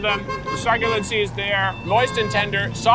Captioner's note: car honking